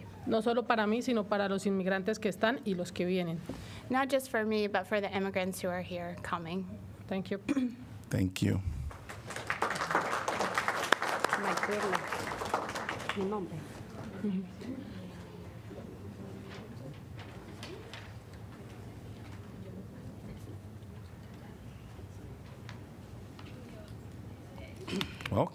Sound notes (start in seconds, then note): 12.8 applause